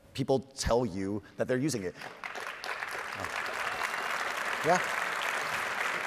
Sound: audience applauding

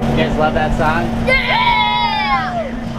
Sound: cheering

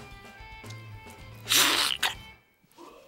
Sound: slurping

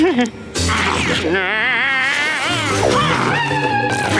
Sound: screaming

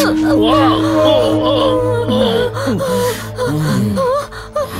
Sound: groans

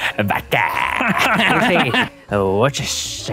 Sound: laughs

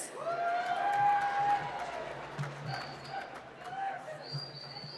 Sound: cheering and applause

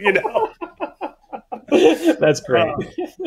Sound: both laughing

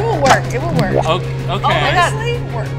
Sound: gadget snaps

